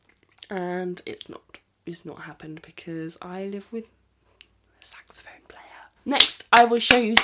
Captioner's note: whispering